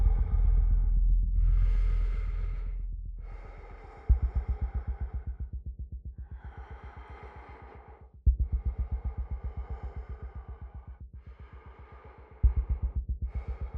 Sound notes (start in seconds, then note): 6.3 breath huffing; 7.3 suspenseful music